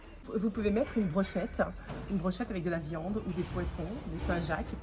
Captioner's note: speaking French